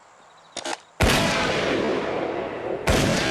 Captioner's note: loud gunshots